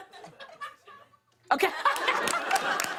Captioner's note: laughter